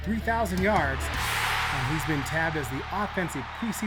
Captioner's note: audience cheers